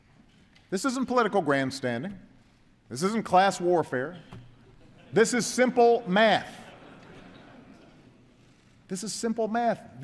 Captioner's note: laughter